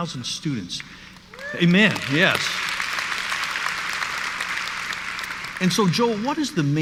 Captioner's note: audience applauds